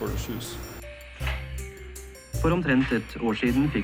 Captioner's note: machine clacks